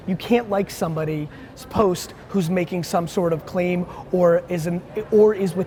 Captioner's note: none